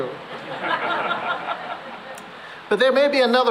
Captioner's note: laughter